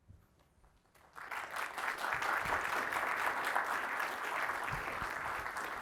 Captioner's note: audience applauding